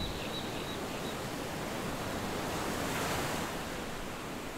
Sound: waves crashing

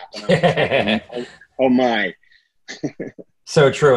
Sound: laughing

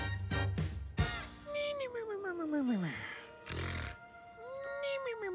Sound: snoring

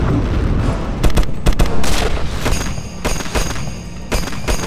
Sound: explosion booming; guns firing

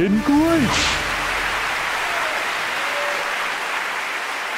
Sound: clapping

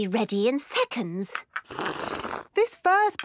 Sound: slurping

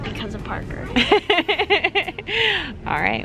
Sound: laughing

